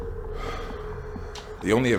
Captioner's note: sighs